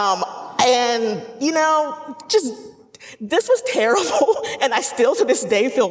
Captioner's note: laughing